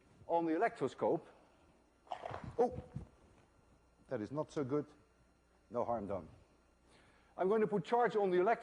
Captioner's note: cracking sound